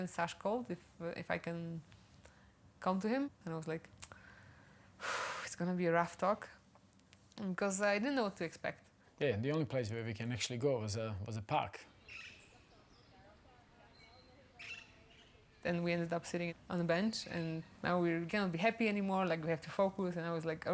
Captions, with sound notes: - And then Sash called if I can come to him, and I was like, (sighs) it's going to be a rough talk, 'cause I didn't know what to expect. - Yeah, and the only place where we can actually go was a park. (birds chirping) - Then we ended up sitting on the bench and now we can't be happy anymore. Like we have to focus, and I was like,